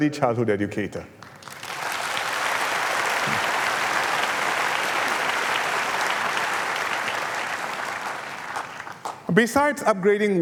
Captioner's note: applause